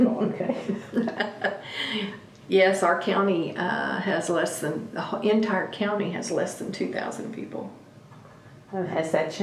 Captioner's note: laughs